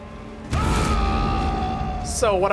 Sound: a mischievous roar

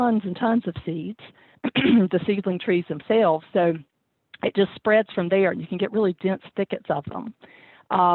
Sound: clears throat

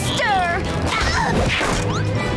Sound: grunting

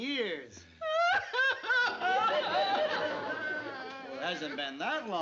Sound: aunt sophie crying

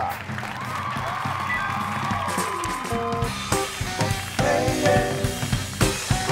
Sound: audience claps and cheers; upbeat groovy music

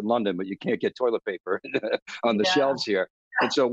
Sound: laughs

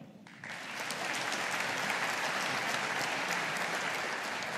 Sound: audience applauding

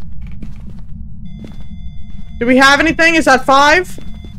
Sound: beeping continues

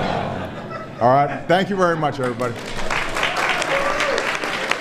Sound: laughter

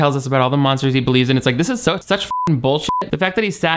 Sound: beep

